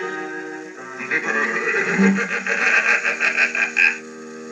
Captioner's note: laughing